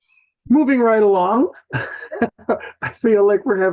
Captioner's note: chuckles